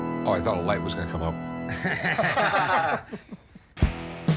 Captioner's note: laughter